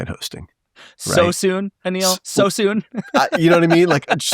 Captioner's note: laughing